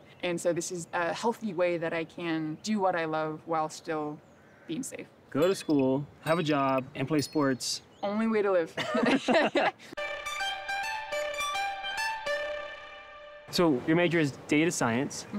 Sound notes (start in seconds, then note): 8.7 both laugh